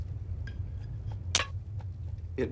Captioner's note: snap